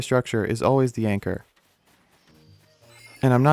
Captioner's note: beat